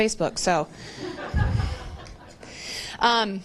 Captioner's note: laughter